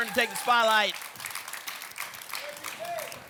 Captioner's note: applause and cheering cont